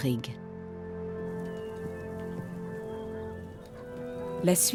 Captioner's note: hooves clomping